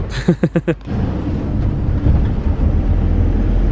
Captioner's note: chuckles